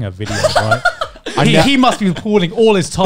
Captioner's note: laughing